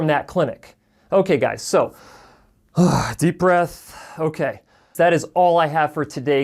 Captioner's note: exhaling